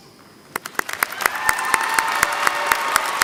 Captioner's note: applause